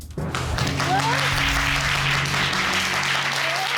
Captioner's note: audience applauding